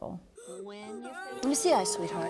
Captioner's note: girl Crying